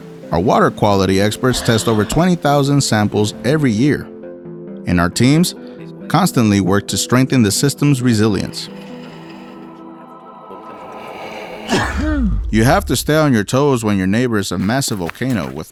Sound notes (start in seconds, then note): 11.4 low sneeze sound